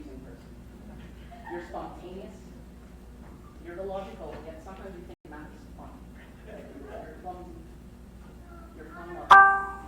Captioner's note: crowd laughs